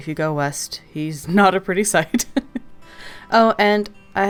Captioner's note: laughs